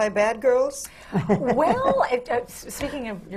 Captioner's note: laughs